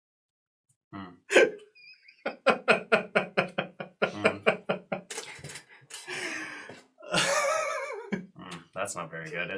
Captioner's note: gasp